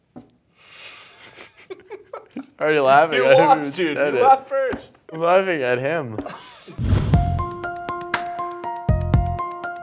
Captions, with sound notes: (laughing) - Already laughing, and I haven't even said it. - You laughed first. - I'm laughing at him. (intense music)